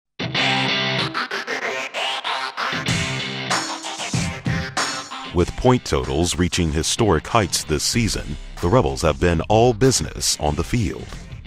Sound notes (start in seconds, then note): 0.9 intense music; 5.0 voiceover